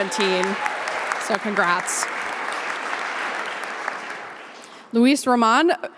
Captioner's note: audience applauding